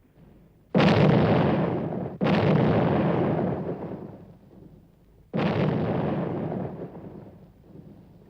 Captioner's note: explosions